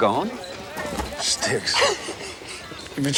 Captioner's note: Anthony chuckles